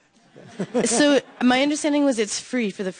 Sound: audience laughing

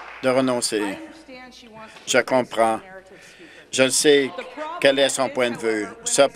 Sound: applause

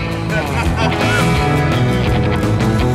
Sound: laughs; upbeat guitar music

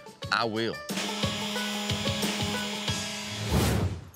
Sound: sanding

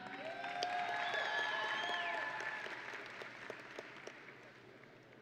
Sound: audience and graduates cheering

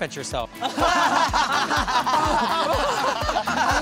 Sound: laughing

